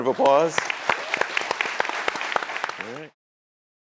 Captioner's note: applause